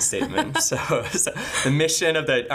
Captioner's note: laughing